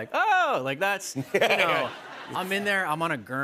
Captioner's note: laughter